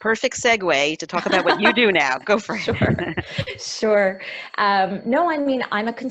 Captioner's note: laughs